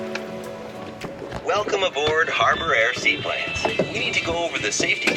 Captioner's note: PA Announcement